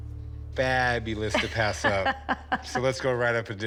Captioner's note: laughs